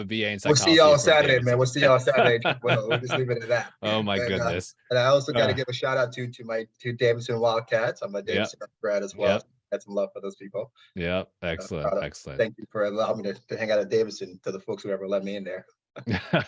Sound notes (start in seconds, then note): 2.6 chuckling; 8.2 audio distortion; 16.0 chuckling